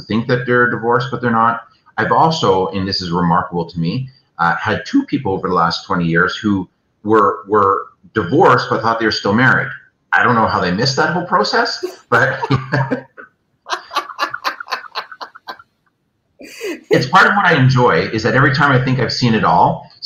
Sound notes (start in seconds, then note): 13.6 laughs out loud